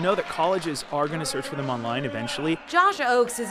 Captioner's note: applause